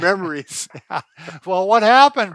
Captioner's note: laughs